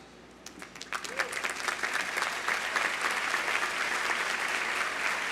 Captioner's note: audience applauding